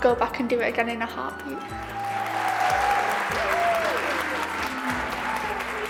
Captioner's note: cheers and applause